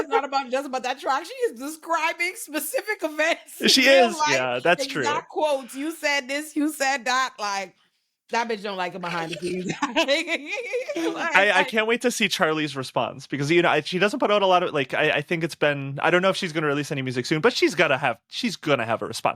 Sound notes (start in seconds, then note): 8.8 laughing